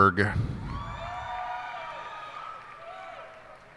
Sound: cheers and applause

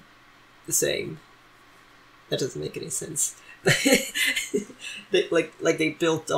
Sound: laughs

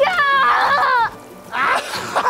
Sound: yelling; both laughing

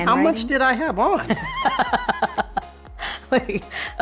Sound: laughing

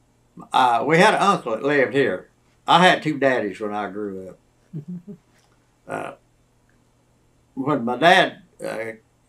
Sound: laughs

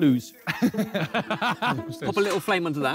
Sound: both laughing

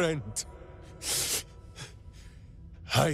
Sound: sniff

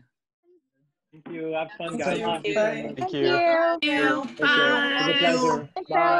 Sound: overlapping voices: Thank you! Thank you! Bye!

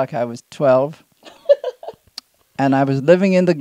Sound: laughs

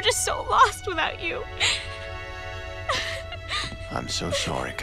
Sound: sobbing

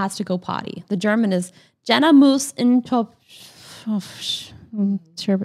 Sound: speaking German

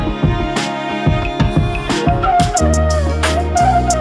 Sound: clap

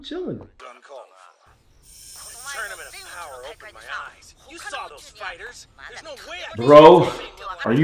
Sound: english & Japanese audio playing at the same time

